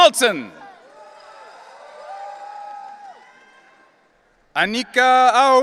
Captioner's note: audience cheering